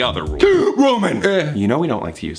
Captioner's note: gasps